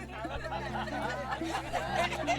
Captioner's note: cheers and laughter